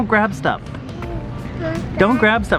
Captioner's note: speaking gibberish